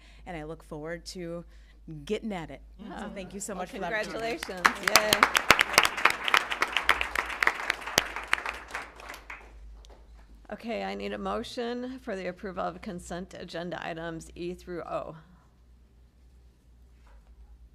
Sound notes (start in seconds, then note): 5.4 applause